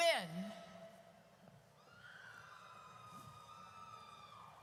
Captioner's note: audience cheers